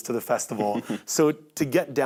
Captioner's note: chuckles